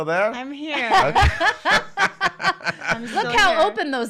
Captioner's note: laughing